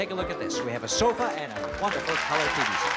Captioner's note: applause